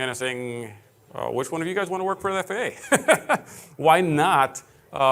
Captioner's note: laughing